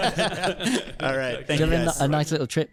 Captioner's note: laughs; hosts laugh